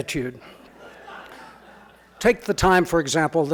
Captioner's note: audience laughing